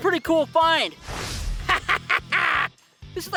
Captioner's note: laughs